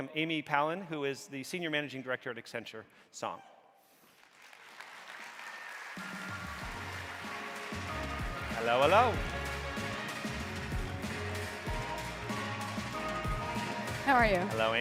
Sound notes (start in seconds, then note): 3.2 bright orchestral music; 4.0 audience applauding